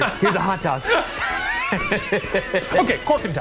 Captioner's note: both laughing